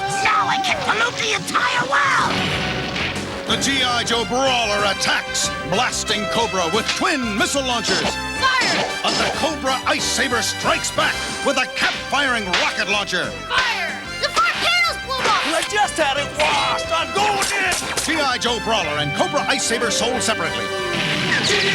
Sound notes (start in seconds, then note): 2.2 explosions